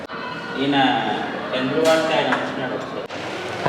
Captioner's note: conversation in Telugu